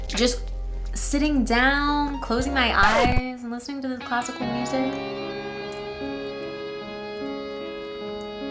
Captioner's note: record scratch